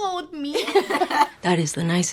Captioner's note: laughing